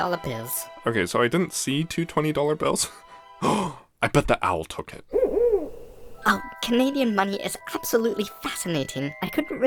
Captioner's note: gasp!